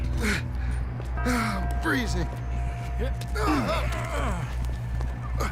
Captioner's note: sounds of effort